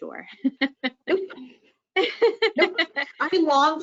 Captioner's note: laughing